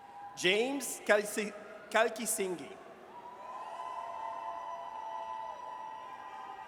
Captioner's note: audience cheers